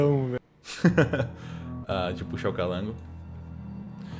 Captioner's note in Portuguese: risada